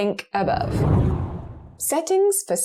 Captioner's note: video effect whooshes